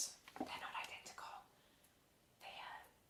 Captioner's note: whispers